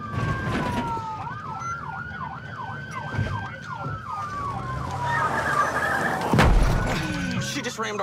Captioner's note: siren wailing